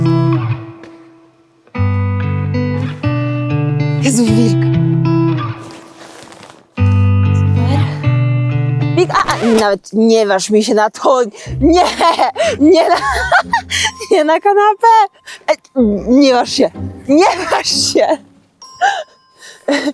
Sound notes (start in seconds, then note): 0.0 relaxed guitar music continues; 4.2 speaking in foreign language; 5.5 light rustling; 6.8 gentle guitar music; 9.0 speaking in foreign language